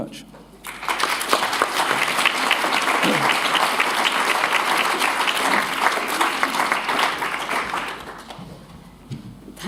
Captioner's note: applause